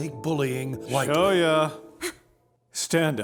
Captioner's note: gasps